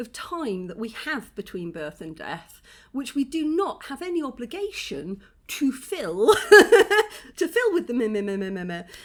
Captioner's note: laughing